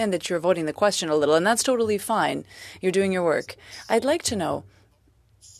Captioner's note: speaking French